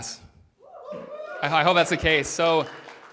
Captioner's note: applause